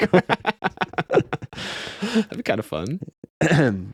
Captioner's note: laughing